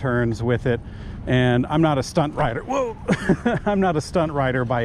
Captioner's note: chuckles